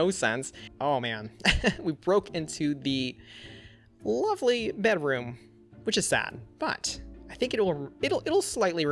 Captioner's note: laughs